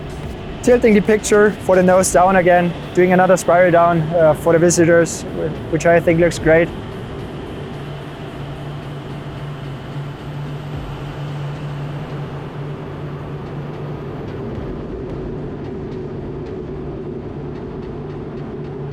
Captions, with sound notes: Tilting the picture for the nose down again, doing another spiral down for the visitors, which I think looks great. (engine droning) (energetic music)